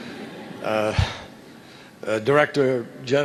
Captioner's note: laughter